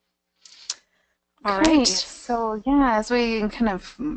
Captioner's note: voiceover